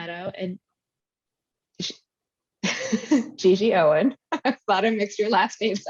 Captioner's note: laughing